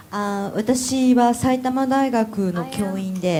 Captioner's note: speaking japanese